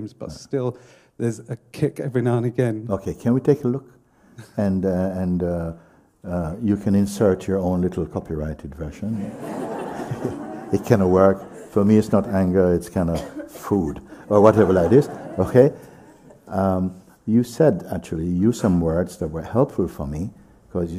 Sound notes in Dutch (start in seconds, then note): 9.1 gelach